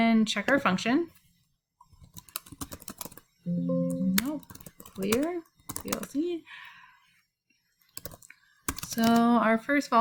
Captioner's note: MATLAB error noise